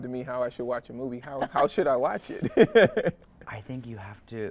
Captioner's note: chuckles